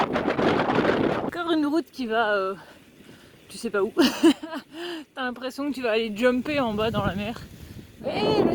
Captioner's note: laughs